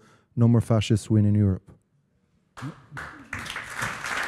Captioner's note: applause